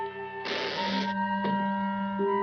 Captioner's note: window closes and creaks